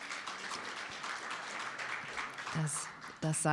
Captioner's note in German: Applaus